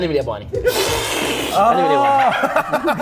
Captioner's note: snorts; laughter